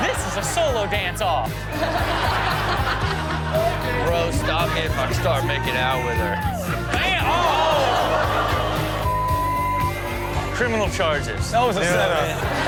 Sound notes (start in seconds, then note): 1.5 all laughing